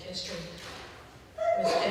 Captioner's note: sneezes